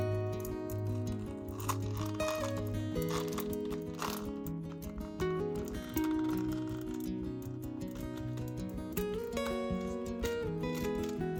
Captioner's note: rubber crinkles and snaps